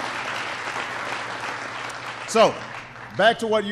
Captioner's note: applause